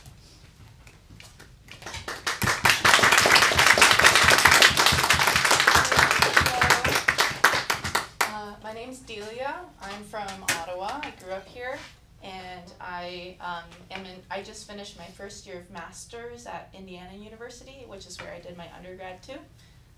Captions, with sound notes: [applause] My name’s Delia. I’m from Ottawa. I grew up here. I just finished my first year of master’s at Indiana University, which is where I did my undergrad too.